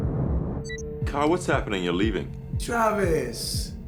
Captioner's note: beeps